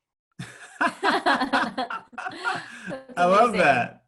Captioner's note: laughing